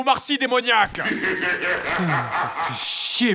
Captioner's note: demonic laugh